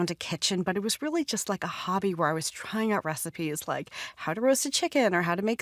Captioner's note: none